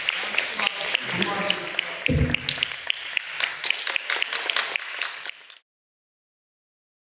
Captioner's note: applause